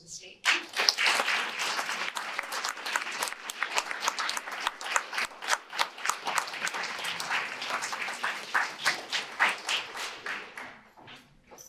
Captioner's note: audience applause